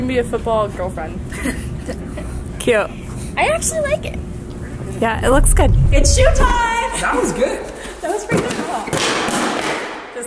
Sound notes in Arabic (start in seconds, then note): 1.4 ضحكات خافتة